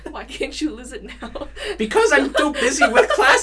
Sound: chuckles; chuckles

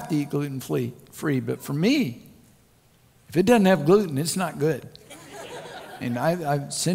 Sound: crowd Laughter

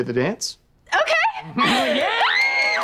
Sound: squealing

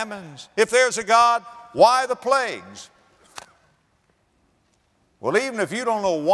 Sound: slap

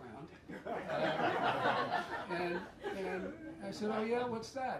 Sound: laughter

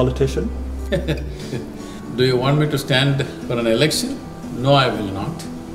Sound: laughs

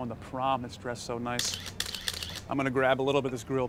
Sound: sound of camera taking pictures

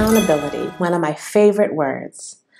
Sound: sound effect

